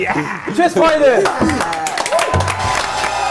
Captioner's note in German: Jubel, Applaus; Dynamische Musik